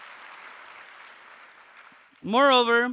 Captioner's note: applause